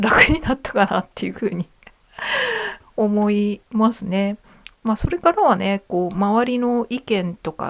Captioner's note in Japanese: 息をのむ音; 笑い